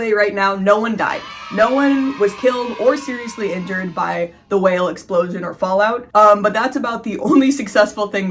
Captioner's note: children cheering